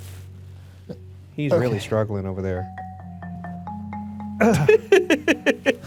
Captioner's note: chuckles